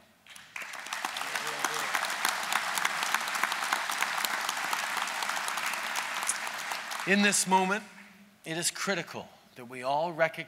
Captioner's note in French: Applaudissements